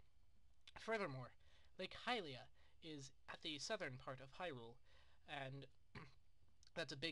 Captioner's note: clears throat